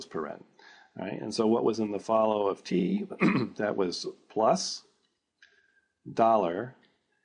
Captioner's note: cough